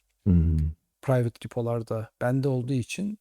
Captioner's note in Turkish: boğazını temizler